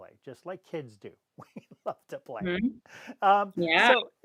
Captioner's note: laughs